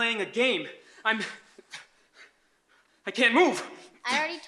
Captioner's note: pants